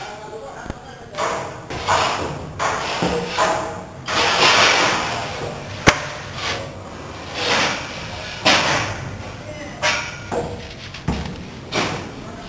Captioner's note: construction Sounds, Nothing Intelligible